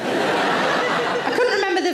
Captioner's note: audience laughing